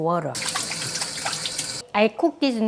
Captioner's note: water running